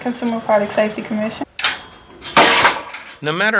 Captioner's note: swing slamming into metal